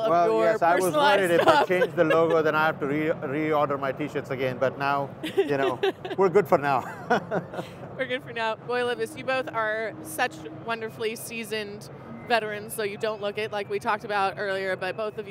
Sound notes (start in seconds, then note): 5.2 chuckling